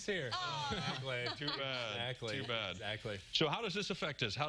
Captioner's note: laughter